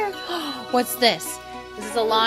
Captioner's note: gasp of delight